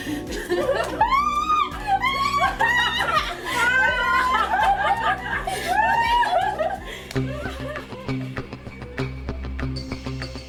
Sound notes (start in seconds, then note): 0.8 woman screaming; 3.1 women laughing; 7.5 fast paced music